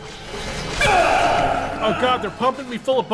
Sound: argh!

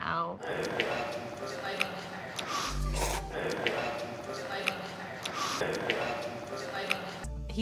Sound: munching

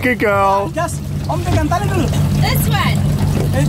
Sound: foreign language

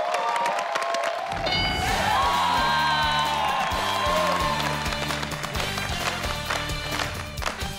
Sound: audience cheering and clapping; bell chiming; upbeat, exciting music; all clapping rhythmically

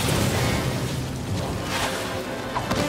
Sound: crashing

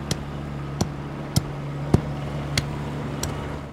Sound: shovel thuds

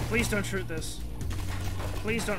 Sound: gunfire

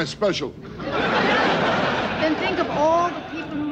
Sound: audience laughs

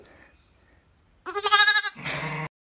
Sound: lamb bleats

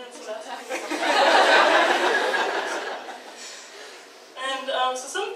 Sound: audience laughs

